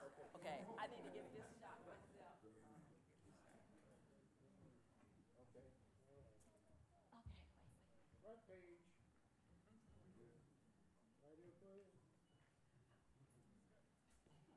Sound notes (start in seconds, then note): 2.9 background conversations